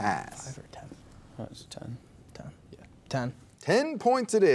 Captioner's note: students whispering